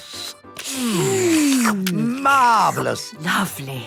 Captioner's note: slurping